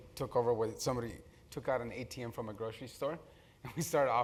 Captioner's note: laugh